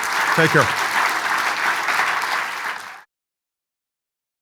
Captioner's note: audience applauds